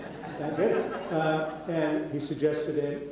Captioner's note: audience laughing